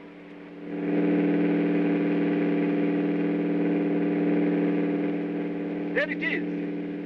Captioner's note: aircraft rumbling